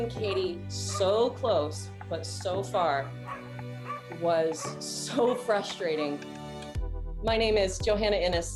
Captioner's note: dog barking